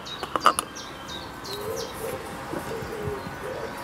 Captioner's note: birds chirping